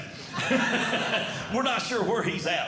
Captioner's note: audience Laughing